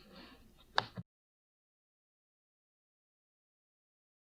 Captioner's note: mouse clicks